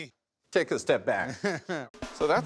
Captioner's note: chuckles